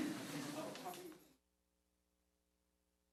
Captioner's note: applause